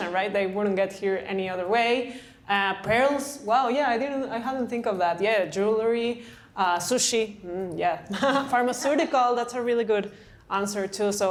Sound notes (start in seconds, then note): 8.1 laughter